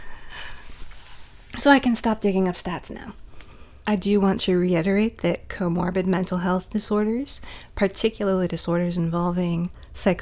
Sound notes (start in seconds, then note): none